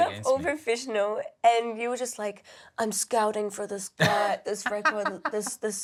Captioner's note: laughs